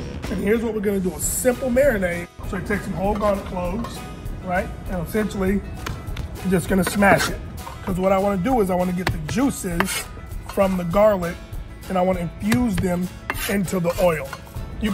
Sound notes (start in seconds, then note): 5.7 palm pounding; 6.8 knife scraping